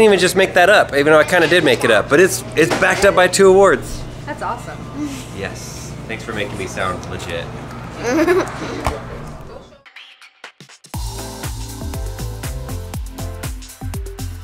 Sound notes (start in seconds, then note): 5.1 laughs; 8.0 laughs; 10.9 upbeat, jazzy music